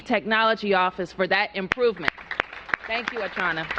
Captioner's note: applause